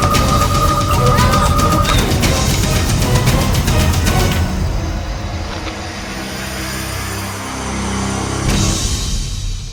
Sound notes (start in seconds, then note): 1.9 screwdriver thudding